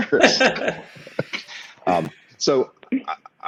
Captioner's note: group laughing